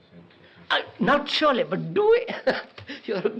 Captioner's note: laughs